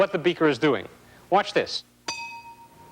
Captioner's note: ping